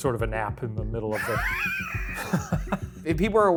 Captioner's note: laughs